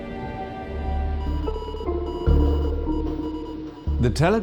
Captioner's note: telegraph beeping